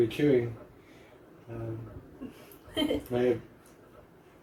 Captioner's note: happy giggle